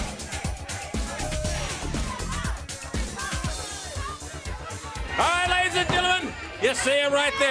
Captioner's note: crowd chatter